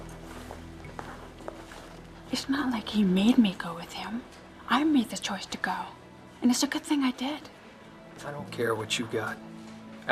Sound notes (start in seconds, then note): none